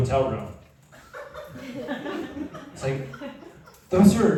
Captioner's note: laughter